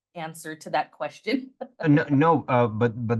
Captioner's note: giggles